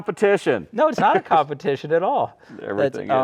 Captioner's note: laughing